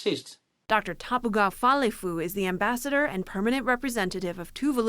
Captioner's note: voice-over